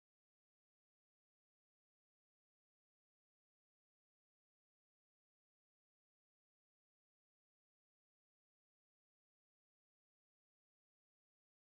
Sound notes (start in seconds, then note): none